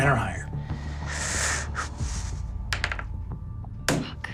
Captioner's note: sighs